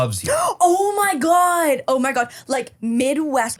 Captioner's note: gasps